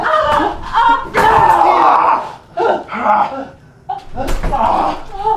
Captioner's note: Tina groans; Janus groans